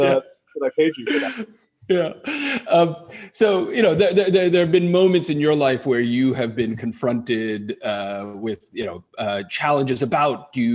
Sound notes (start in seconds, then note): 0.7 laughs